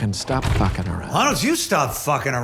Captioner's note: door clatters